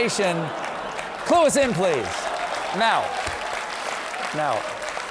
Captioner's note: applause; laughter